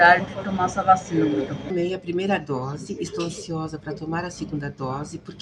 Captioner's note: speaks in foreign language